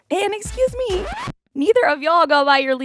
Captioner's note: soundbite of record scratch